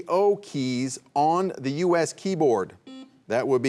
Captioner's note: buzzer buzzing